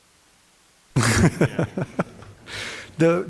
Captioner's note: chuckles